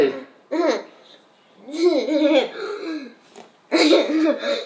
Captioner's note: laughing